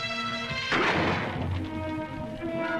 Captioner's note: gunshot